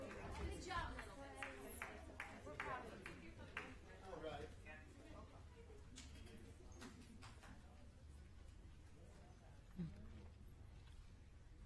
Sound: applause

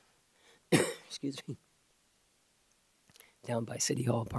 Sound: coughs

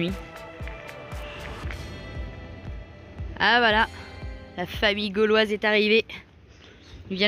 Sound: applause

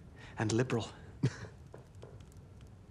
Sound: laughs briefly

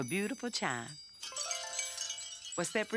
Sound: chimes

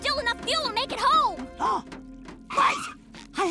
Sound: gasping

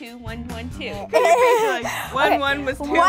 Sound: laughing

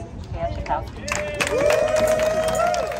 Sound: applause

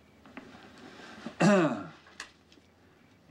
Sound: clearing throat

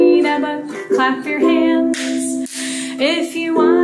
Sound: clapping

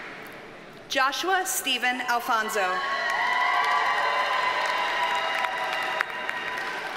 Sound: audience cheers and applauds

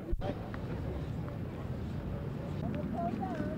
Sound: ambient street noise

